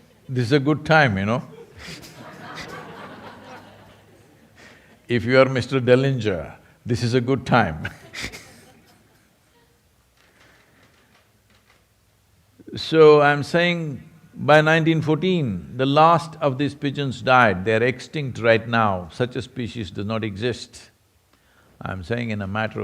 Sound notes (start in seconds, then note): 1.5 laughter; 11.4 laughs